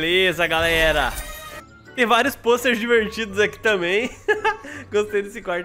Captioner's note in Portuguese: risos